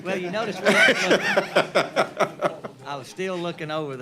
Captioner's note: laughter